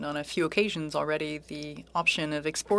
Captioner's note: speaking French